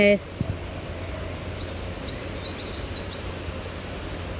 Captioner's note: birds chirping